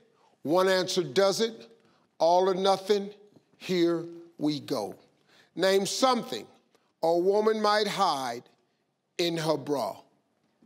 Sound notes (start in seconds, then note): none